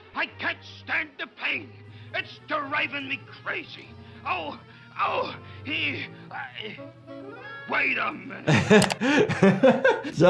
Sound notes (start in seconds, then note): 4.3 pained groaning, stammering; 8.4 doctor laughing